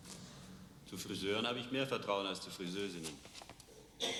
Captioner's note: speaking german